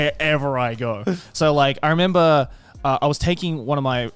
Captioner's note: hosts laugh